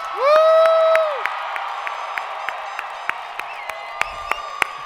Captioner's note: audience cheering